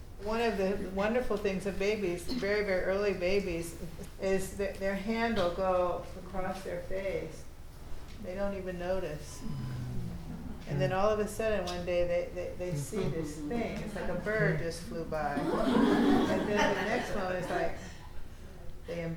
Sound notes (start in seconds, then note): 9.4 students sighing; 15.3 students laughing